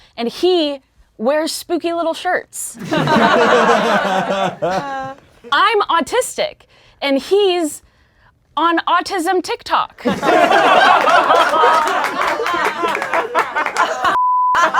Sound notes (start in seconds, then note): 2.8 laughing; 10.0 laughing